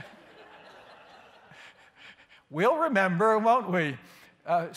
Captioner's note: laughter